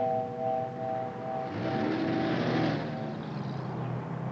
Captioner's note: station wagon drives off